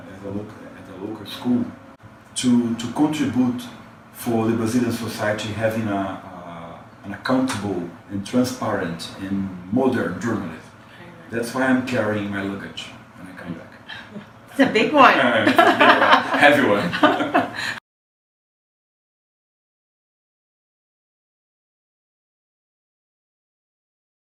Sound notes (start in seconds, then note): 15.4 laugh